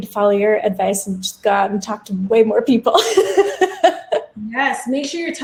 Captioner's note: laughs